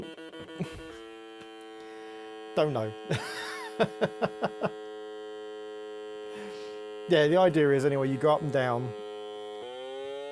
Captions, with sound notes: Don't know. [laughs] Yeah, the idea is, anyway, you go up and down.